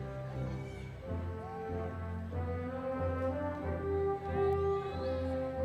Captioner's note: audience members exclaiming